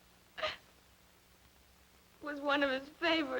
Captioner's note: Julia sobbing